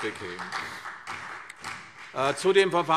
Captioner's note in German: Beifall CDU